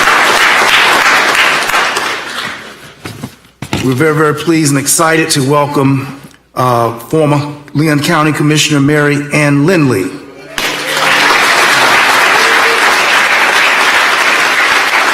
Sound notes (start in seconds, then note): 2.0 applause